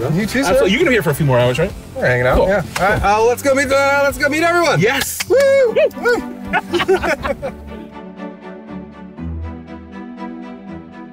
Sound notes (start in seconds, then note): 5.0 clapping; 5.3 both cheering; 8.0 orchestral music